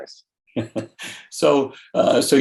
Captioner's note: laughs